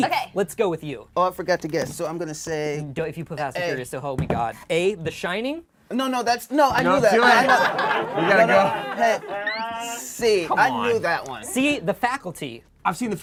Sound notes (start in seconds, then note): 6.8 group laughs; 7.0 laughs; 7.8 overlapping chattering